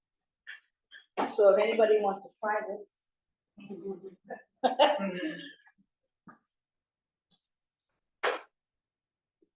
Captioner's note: laughs